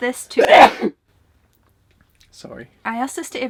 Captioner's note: sneeze